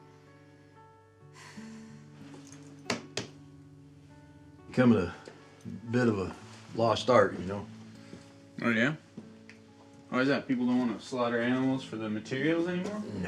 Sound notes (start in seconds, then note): 0.3 soft somber music; 1.3 Abe sighs; 2.7 hand slaps